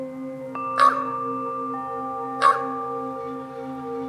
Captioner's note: crow caws